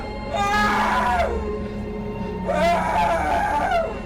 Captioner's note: Tom crying